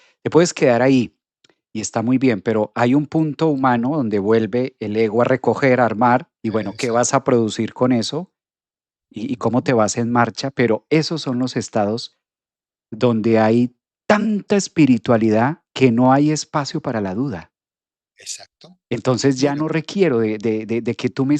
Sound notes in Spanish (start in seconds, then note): 15.0 carraspeo